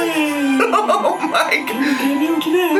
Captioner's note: laughs